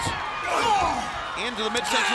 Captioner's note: wrestler grunting